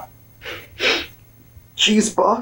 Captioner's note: sobs